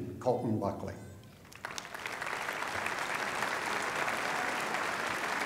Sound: applause

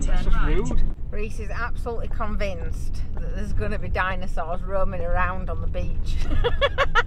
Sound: laughing

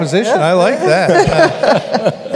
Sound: laughter

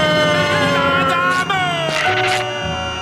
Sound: echoing

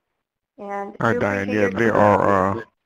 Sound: voiceover

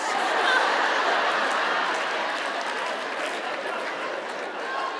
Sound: audience laughing

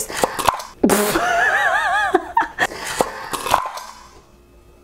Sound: laughs

